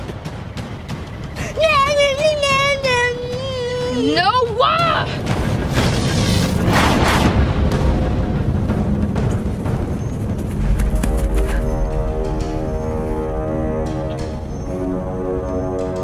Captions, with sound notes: Nyah nyah nyah! - Noah! (whooshing) (suspenseful music)